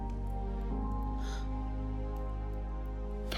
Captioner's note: gasps